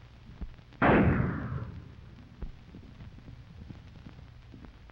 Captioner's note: gunshots banging